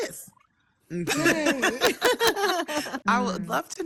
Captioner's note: panelists laughing